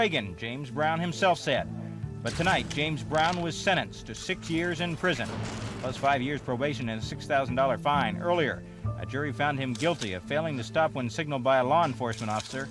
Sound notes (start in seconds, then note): none